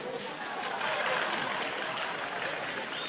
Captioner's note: applauses